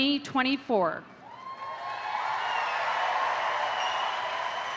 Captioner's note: crowd cheering